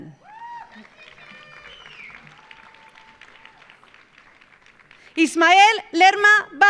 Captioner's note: audience cheering; audience applauding